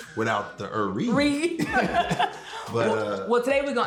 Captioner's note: laughter